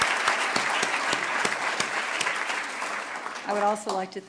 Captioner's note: applause